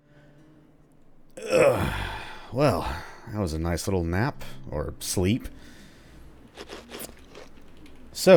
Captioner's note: content, groaning yawn